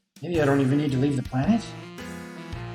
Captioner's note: none